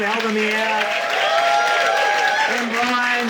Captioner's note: audience cheering